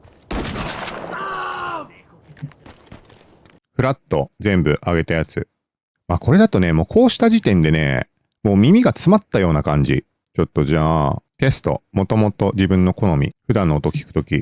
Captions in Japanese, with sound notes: [叫び声][うめき声] フラット全部上げたやつ。ま、これだとね、もうこうした時点でね、もう耳が詰まったような感じ。ちょっとじゃあテスト元々自分の好み、普段の音聞く時用の定域もちょっと残してあるやつ。